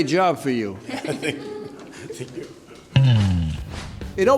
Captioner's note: laughter